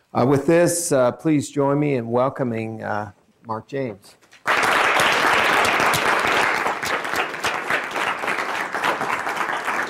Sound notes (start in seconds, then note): 4.3 applause